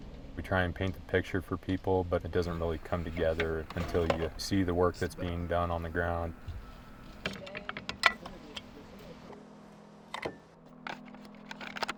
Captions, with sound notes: We try and paint the picture for people, but it doesn't really come together until you see the work that's being done on the ground. (metal clanking)